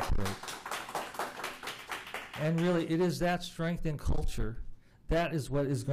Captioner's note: applause